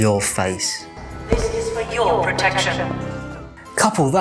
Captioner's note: female voice over